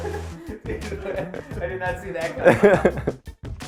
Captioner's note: laughing